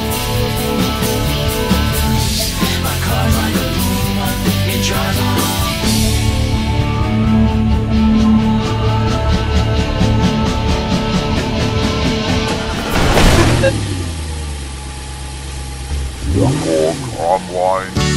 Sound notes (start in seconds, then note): 12.8 engine starting; 13.5 boop beep